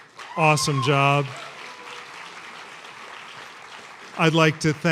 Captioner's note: applause